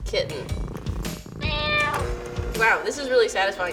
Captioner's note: cat purrs and meows